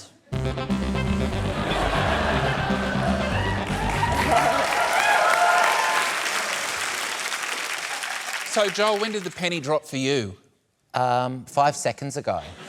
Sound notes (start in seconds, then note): 0.3 funky keyboard notes play; 3.2 cheering, applause